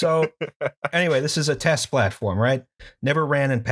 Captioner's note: laughter